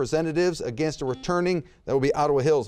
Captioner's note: buzzer beeps